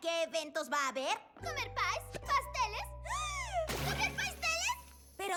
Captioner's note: gasp